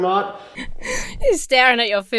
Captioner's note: chuckles